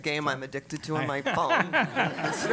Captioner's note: laugh